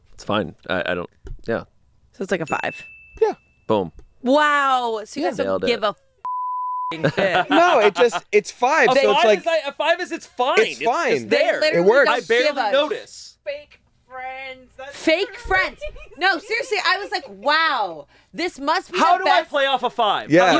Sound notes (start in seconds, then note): 2.5 bell rings; 6.2 beep